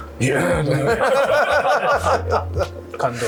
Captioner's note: laughter